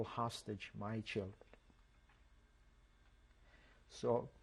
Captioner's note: pauses for 3 seconds